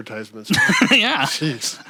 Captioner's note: chuckling